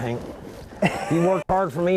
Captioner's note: laughter